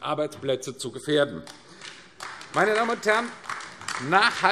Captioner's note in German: Beifall AfD